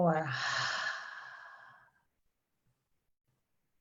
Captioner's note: exhaling